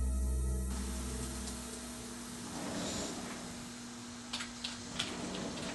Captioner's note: keys clicking. sliding door; typing